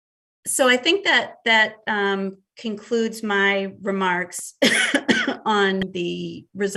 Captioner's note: coughs